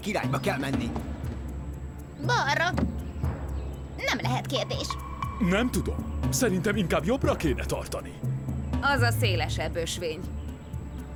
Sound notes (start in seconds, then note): none